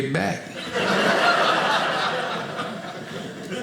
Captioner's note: audience laughing